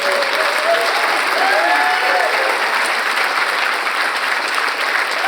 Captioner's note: audience cheers and applauds